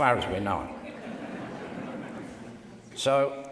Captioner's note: laughter